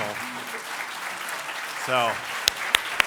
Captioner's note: audience applauds